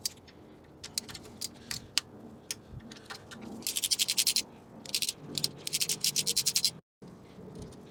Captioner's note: ratchet Noises